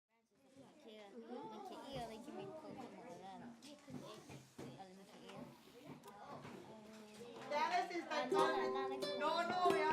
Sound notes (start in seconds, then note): 2.1 classroom sounds